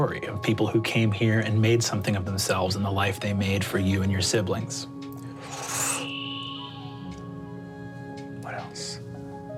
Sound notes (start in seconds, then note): 5.7 gasps; 5.7 melodious music